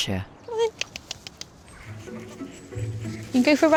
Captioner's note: tongue clicking